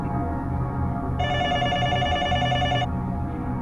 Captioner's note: telephone ringing